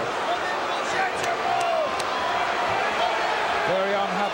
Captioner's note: audience shouting